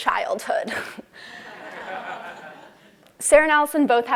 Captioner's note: laugh